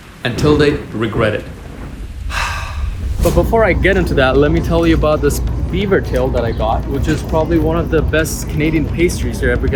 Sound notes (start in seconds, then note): 2.2 sighing